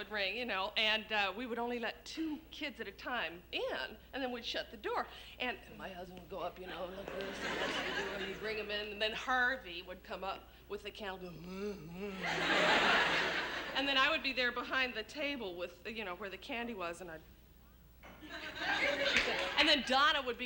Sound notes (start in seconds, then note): 11.2 grunts; 12.1 laughter